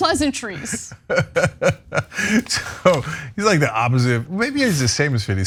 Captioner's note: laugh